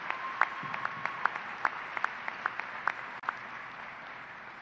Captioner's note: applause